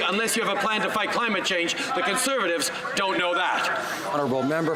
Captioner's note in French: voix de l'interprète